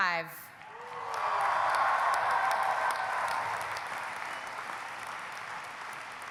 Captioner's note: audience applauding; audience cheering